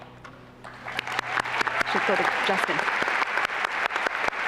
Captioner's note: applause and cheering